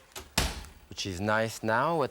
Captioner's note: oven bangs